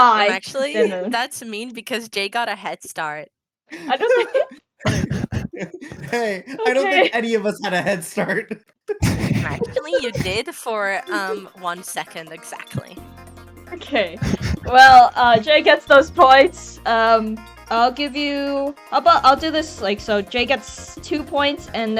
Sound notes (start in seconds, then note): 4.8 ALL laughing; 8.9 chuckles™